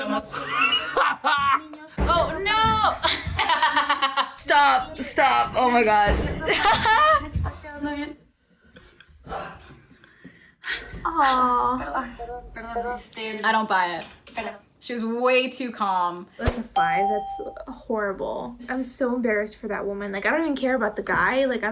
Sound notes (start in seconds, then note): 0.3 laughs; 6.4 laughs; 9.2 chuckles